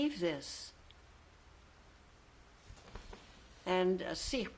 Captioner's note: pauses for 3 seconds